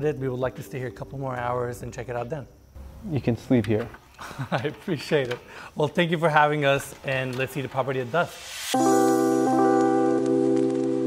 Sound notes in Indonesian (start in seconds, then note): 4.1 tertawa; 8.7 musik upbeat